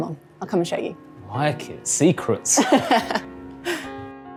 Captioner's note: laughs